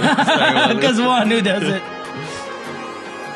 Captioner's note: laughs